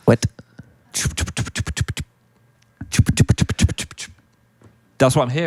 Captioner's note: imitating rustling